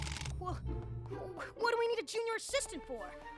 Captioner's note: rattle!